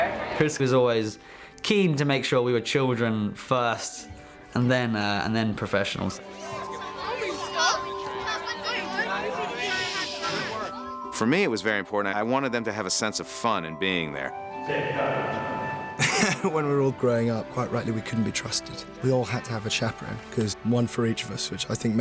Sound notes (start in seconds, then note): 6.2 kids chattering